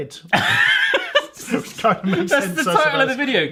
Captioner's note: laughing